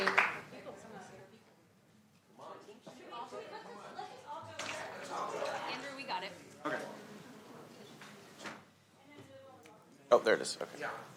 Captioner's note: applause